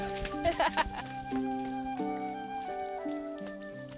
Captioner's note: flute music plays; laughs